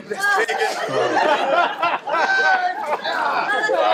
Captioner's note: laughing